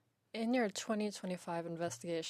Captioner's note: speaking in French